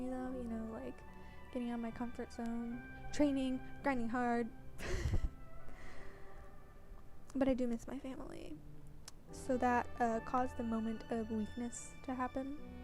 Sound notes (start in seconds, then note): 4.8 laughs